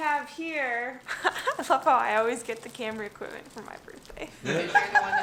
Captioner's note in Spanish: risas